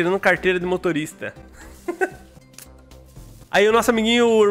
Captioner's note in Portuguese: risos